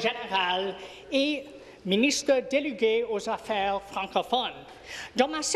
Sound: speaking in French

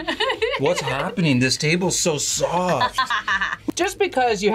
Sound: laughs

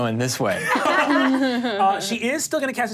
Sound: laughs

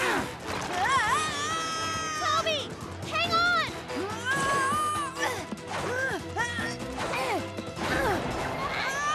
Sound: screaming; grunting; screaming

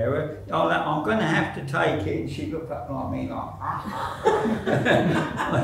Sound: laughter

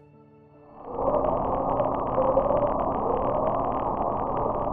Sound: device humming

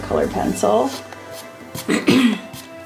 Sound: palm rubbing; clears throat

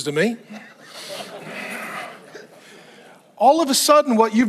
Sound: congregants chuckling

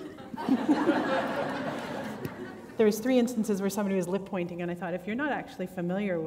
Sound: laughter

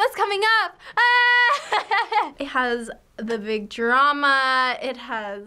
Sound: laughs

